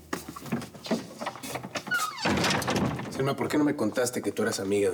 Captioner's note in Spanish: sonido al cerrar la puerta